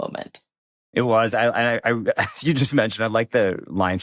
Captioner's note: chuckles